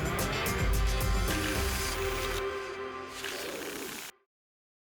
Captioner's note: tickets shuffling